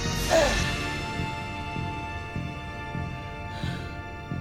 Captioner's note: hyposray sound